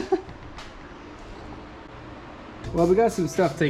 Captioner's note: haha